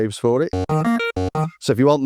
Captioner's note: beep